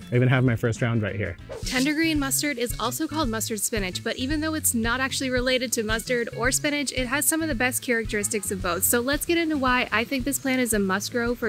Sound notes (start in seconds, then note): 1.4 screen whooshes